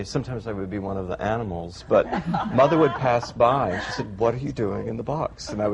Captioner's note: laughter